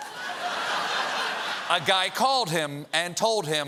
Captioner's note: laughter